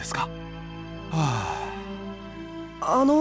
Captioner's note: relieved sigh